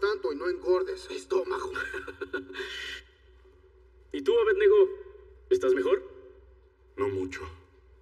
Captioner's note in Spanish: Ríe